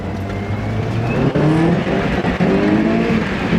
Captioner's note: engine revving